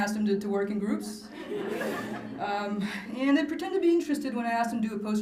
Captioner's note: laughter